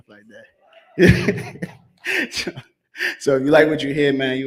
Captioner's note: laughs